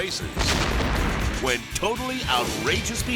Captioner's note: dynamite explodes